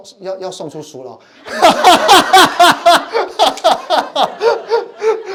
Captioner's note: laughing